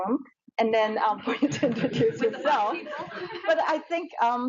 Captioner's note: audience chuckles